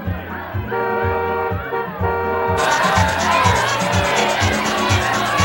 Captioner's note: uptempo Samba music; car horn honking